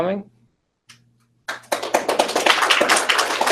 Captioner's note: applause